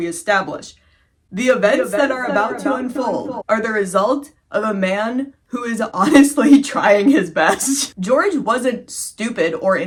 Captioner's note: echoing